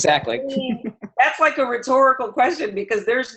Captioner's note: laughter